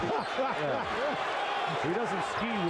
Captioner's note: laughter